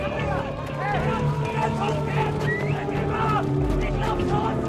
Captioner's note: siren wails